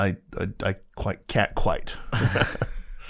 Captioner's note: laughs